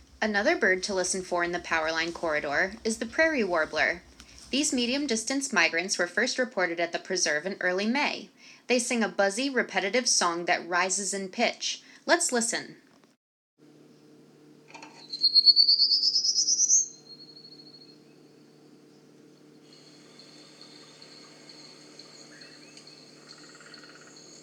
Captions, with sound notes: Another bird to listen for in the powerline corridor is the Prairie warbler! These medium-distance migrants were first reported at the preserve in early May. They sing a buzzy, repetitive song that rises in pitch. Let’s listen… [Prairie warbler singing] [long pause]